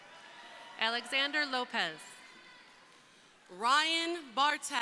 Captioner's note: crowd cheering